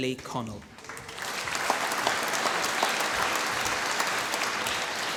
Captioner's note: applause